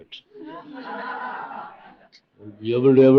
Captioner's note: laughter